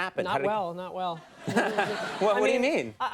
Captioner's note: audience laughs